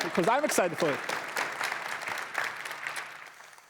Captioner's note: applause